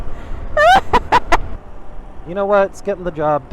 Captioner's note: laughing